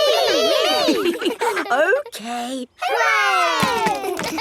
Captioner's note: chuckles